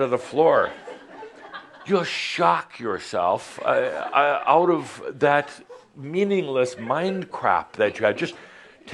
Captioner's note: some laughter